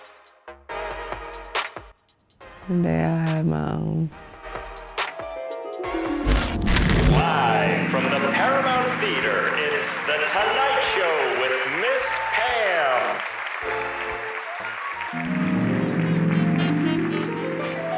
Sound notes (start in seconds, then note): 6.4 television static; 13.0 applause